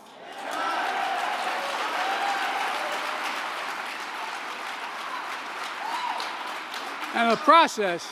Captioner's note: applause